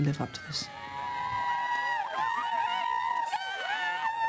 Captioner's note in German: kreischen